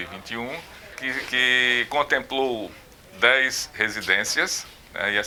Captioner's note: steps